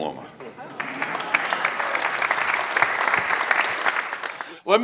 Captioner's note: audience applauds